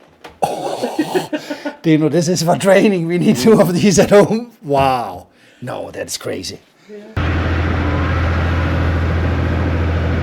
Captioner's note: laughter